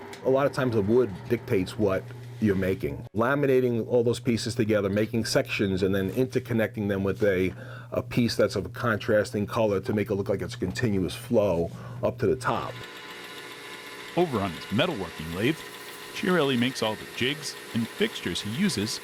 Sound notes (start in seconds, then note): 12.4 tool buzzing